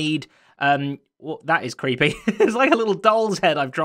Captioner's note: chuckles